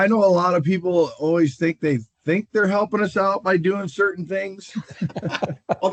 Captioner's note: laughter